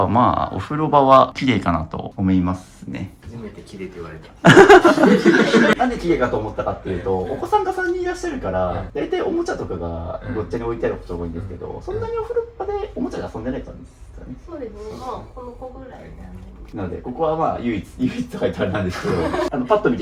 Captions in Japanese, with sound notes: 初めて綺麗って言われたな [笑い] んで綺麗かと思ったかって言う 遊んでないんですかね。 そうですね。ま、この子ぐらい なのでここはま唯一唯一と書いてあれなんですけどあのパッと見て綺麗だなと思いました。